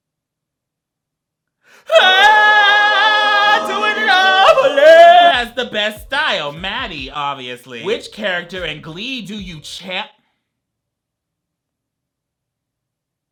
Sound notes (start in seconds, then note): 1.8 exclaiming; 1.9 angelic choir music